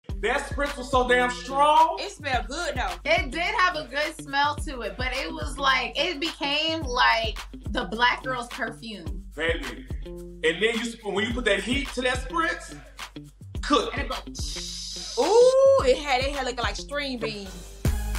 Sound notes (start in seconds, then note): 13.7 imitates sizzling